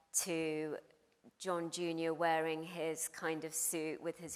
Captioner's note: none